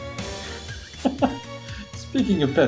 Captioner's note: laughs